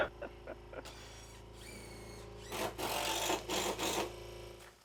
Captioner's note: laughing; drill whirring